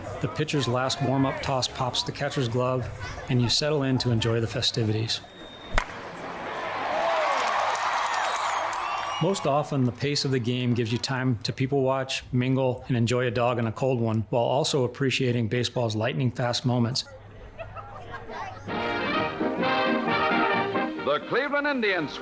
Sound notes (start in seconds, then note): 5.7 crowd cheering; 5.7 bat cracks; 18.6 brass band music